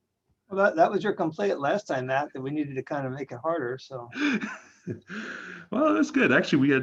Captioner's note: laughs